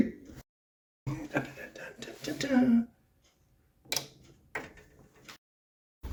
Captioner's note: happy noises, clicking